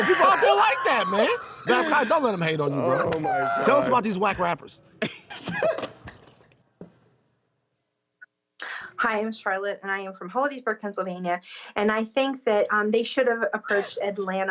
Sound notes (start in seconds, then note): 5.0 laughter